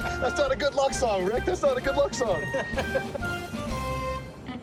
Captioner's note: laughs